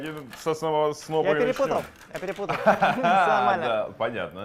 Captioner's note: laughter